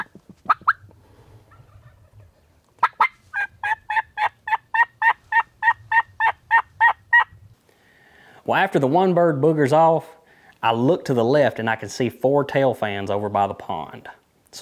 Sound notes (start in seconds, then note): 2.7 turkey gobbling; 2.8 turkey call